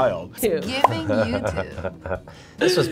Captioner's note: laughing